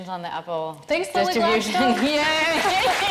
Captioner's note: audience cheering